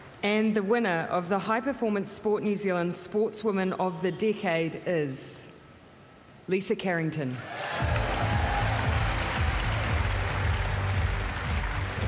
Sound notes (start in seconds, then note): 7.4 cheering, applause